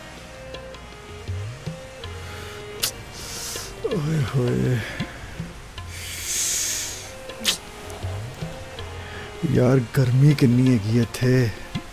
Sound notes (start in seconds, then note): 3.4 talking to himself